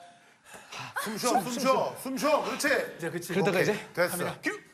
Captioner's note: breathing heavily